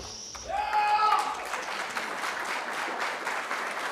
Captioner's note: cheering